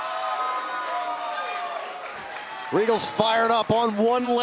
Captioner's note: crowd cheering